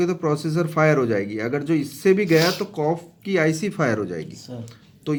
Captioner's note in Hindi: नाक से की जाने वाली आवाज़